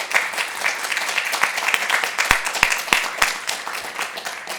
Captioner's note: applause